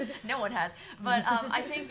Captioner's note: laughter